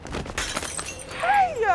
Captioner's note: bottle smashing